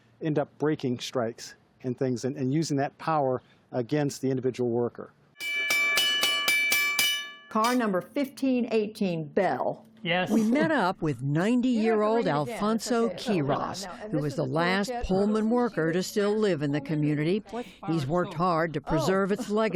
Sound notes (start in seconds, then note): 5.4 bell ringing